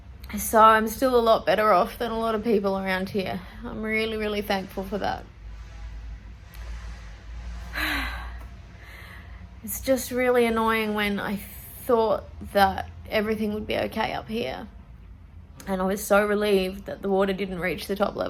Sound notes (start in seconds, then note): 5.4 takes a deep breath